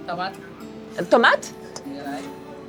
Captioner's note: speaks in foreign language